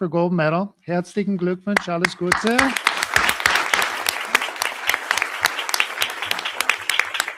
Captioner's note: speaking German; audience applauding